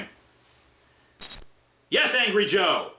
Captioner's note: wristwatch beeps